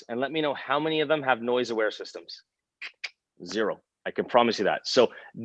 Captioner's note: clicks tongue